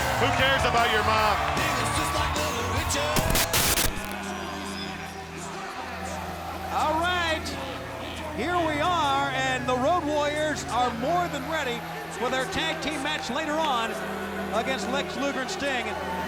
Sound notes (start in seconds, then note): 2.3 lively music; 2.9 static crackling; 3.1 graphics hissing